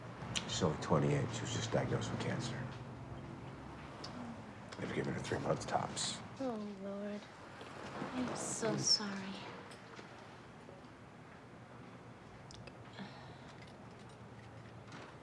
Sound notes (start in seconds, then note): none